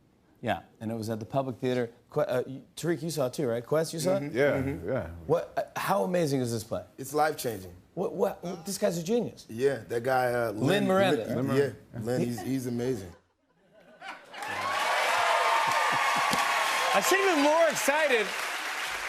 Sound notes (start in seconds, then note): 14.2 cheering